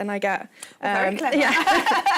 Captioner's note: laughter